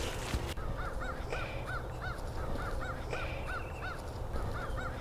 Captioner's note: crow cawing